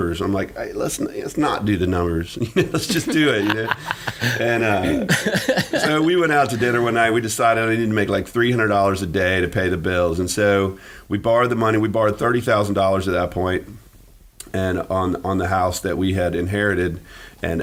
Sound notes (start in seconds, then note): 2.4 laughing